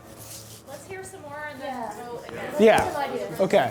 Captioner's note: voiceover